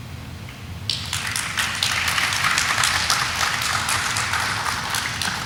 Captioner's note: audience applauding